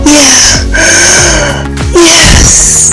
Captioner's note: moans